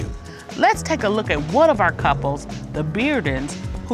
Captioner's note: none